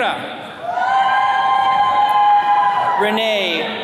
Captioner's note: attendees cheering